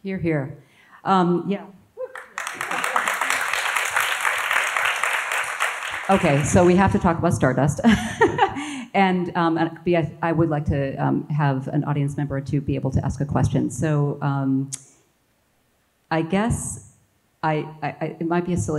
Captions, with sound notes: - Here, here. Yeah. (audience applauds) Okay, so we have to talk about "Star Dust," (laughs) and I would like to have an audience member or two be able to ask a question. So I guess, it might be a silly question,